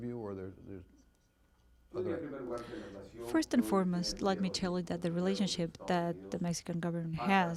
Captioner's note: through translator